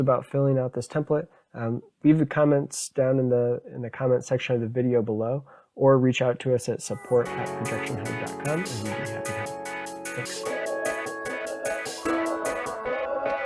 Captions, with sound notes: about filling out this template, leave the comments down in the comment section of the video below, or reach out to us at support@projectionhub.com (murmurs) (upbeat music)